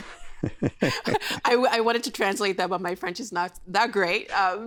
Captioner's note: chuckling